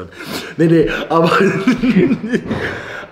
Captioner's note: laughter